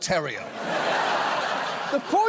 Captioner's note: studio audience laughs